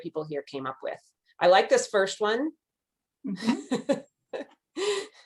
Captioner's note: chuckles